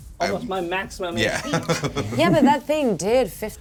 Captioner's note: laughs